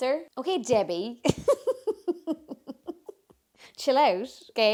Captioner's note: laughs